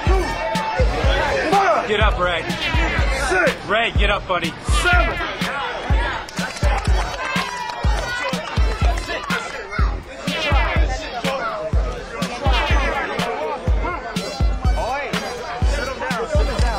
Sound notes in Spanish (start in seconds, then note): 6.2 Aplausos